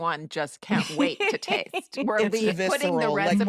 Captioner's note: laughs